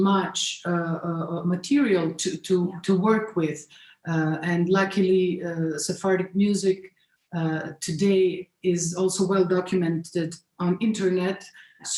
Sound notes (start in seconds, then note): none